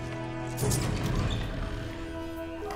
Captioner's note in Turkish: Kapı sesi